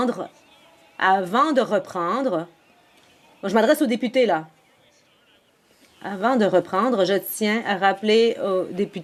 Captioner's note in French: voix de l'interprète